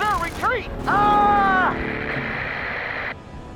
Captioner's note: cut off by static